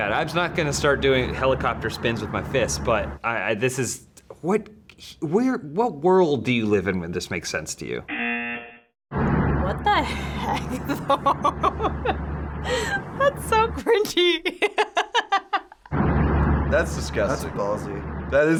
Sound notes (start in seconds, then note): 8.1 buzzer; 10.1 laughs